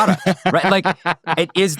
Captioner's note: laughing